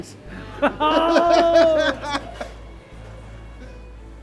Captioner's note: both laughing; inspiring orchestral music